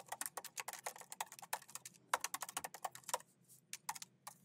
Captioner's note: keyboard clacking